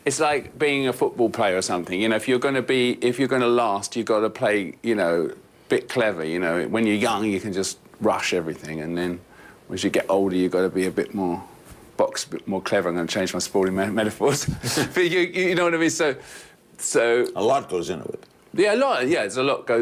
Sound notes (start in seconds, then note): 14.4 laughter